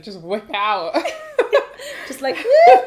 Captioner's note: laughter